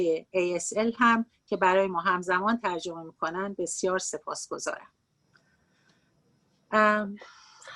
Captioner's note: speaking Farsi